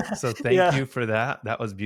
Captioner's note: chuckles